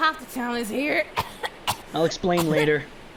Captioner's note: coughing